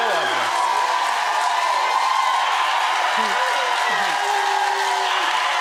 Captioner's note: audience cheering